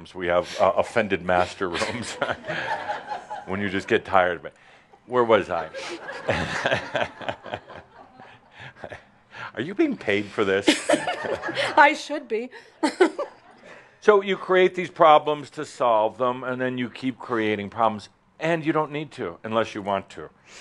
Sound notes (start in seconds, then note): 1.4 more chuckles; 5.8 chuckles; 12.5 she giggles